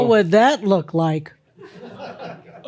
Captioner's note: some chuckles